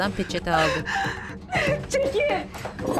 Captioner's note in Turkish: Ağlama sesi